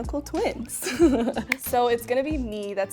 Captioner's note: laughing